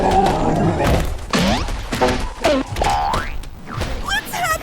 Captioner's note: Gloink Queen groaning; bonk!; sproing!; boink!